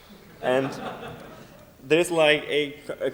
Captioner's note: laughter